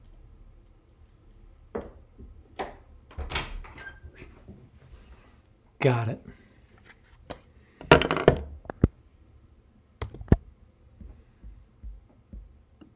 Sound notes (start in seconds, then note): 3.1 door opens; 7.5 plastic clinks